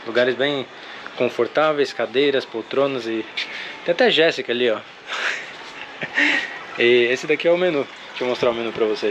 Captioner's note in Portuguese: risadas